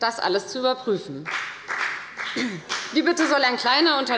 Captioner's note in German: Beifall bei der FDP